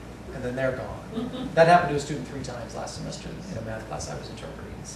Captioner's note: laughter